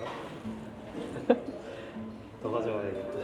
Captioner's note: laughter at the absurdity